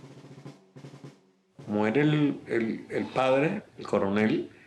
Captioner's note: speaking Spanish